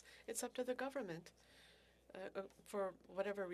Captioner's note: speaking French